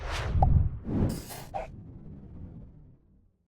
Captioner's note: swooshing